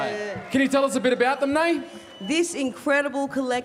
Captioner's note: cheering and applause